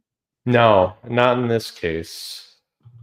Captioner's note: none